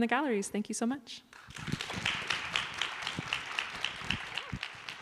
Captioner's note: applause